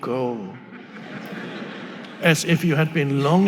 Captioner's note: audience laughing